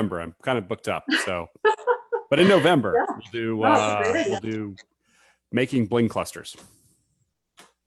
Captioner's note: laughs